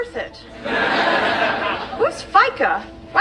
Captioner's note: audience laughing